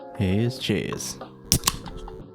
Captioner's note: tasty beverage opening